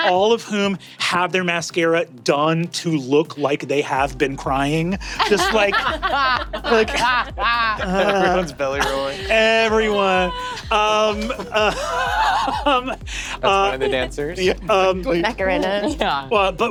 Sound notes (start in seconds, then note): 6.0 players laughing; 7.9 Brennan moans; 12.1 Brennan laughing; 16.0 laughs